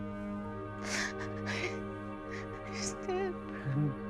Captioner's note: Ruth crying